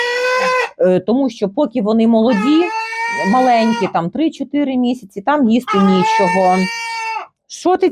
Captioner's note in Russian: крик курицы